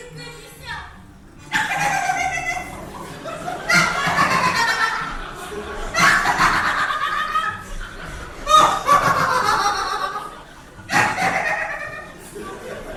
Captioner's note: laughs; Ernestina laughing wildly